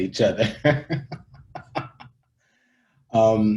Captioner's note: laughing